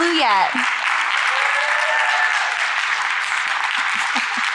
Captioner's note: audience clapping